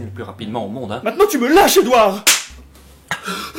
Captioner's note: slap